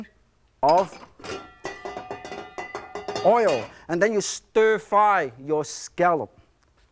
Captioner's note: pan clinking